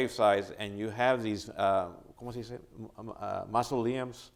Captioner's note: speaking in spanish